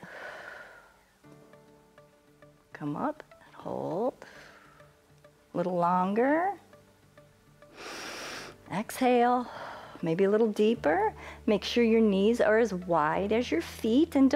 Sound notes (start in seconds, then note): 4.2 exhales; 7.7 inhales